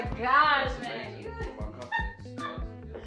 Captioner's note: Chris faintly speaks; Chelsea laughs